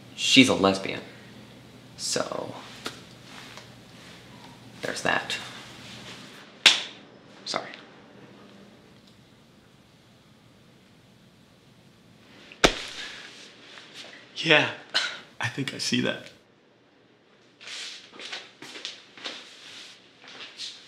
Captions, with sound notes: She's a lesbian. So... there's that. *slap* Sorry. *punch* Yeah. I think I see that.